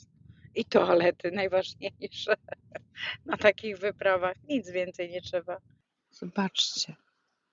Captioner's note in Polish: śmiech